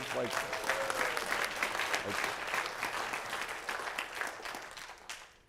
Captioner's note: applause